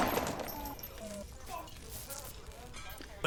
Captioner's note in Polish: telefōn pipie